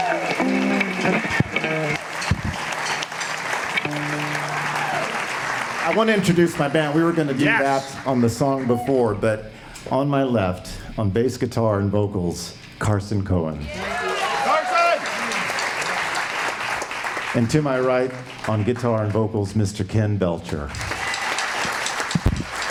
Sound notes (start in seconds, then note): 13.8 applause; 20.6 applause